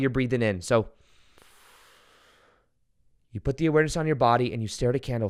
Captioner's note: inhales